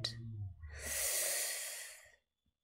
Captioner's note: sharp intake of breath